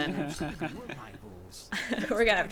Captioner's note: laughing